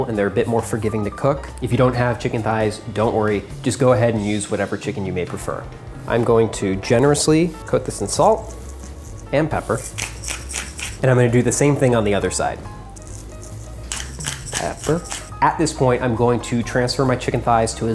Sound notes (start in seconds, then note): 9.8 pepper mill grinding; 12.8 pepper mill grinding; 12.9 light music